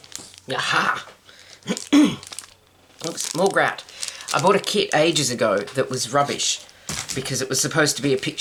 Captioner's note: clears throat